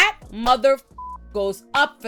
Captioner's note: beep